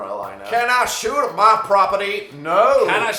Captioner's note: southern American accent